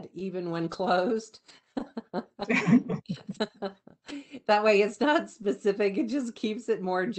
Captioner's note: laughter